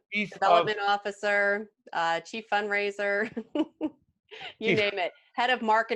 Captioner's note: laughing